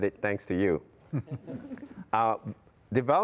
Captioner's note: chuckles